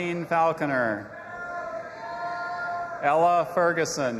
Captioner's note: audience applauding and cheering